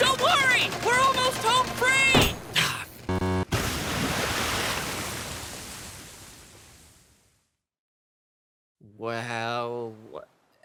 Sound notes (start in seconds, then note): 3.4 crashes into water